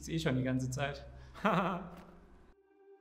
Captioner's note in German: Lacht